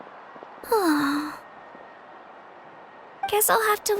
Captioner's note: sigh